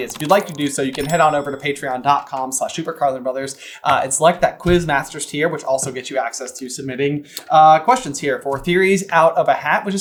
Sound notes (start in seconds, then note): none